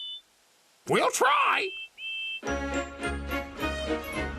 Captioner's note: toots happily